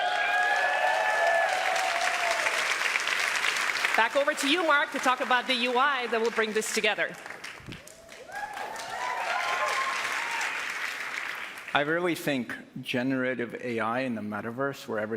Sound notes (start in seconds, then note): 7.0 cheers and applause